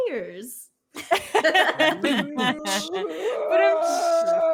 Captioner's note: all laughing